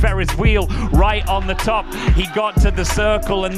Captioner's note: audience laughing